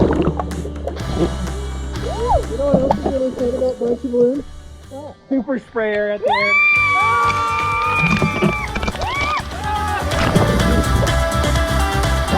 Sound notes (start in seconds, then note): 6.2 shrieking; 8.1 upbeat pop music